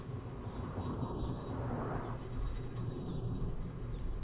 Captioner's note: traffic humming